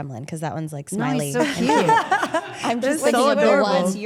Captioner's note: Rhea laughs